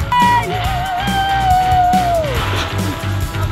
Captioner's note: cheering; pop music